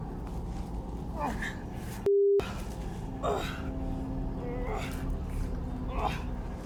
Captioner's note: groaning